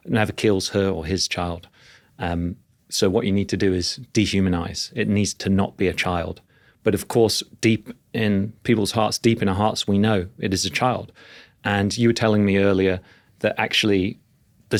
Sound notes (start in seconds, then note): none